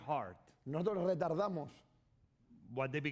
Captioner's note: speaking spanish